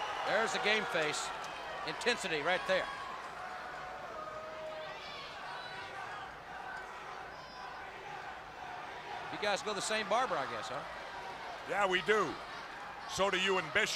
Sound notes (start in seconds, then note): 0.0 crowd cheering; 5.2 crowd cheering